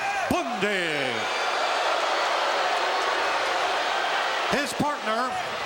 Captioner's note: audience shouting